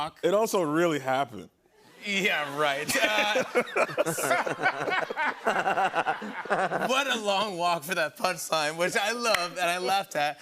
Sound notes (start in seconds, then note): 2.4 laughter